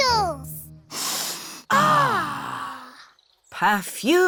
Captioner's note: all sniff